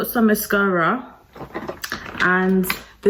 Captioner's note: makeup rattling